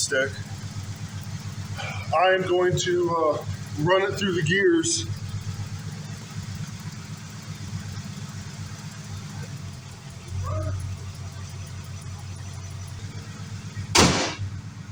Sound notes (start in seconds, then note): 6.5 engine idling; 9.5 engine idle drops; 13.8 hood slams